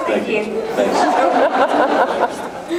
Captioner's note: laughs